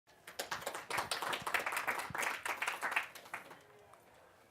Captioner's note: audience clapping